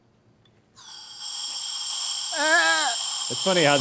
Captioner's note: canister hisses